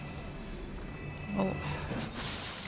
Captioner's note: sighs